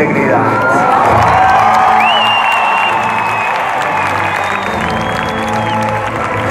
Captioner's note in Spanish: aplausos